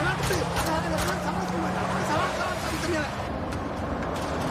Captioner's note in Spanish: Disparos